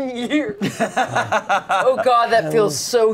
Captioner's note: everyone laughs